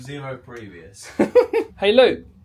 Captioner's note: laughs